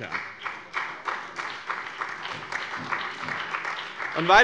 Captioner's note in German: Beifall bei dem BÜNDNIS 90/DIE GRÜNEN und der CDU